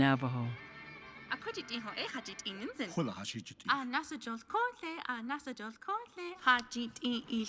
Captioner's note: Dory and Marlin speaking Navajo